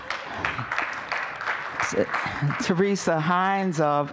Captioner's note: applause